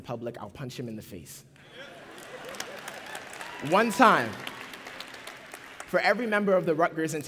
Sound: applause

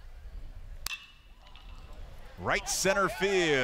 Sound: ball hitting bat

